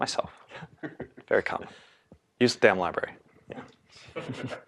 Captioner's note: laugh; laugh